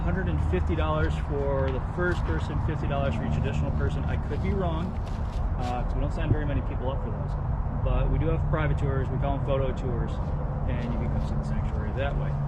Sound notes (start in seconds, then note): none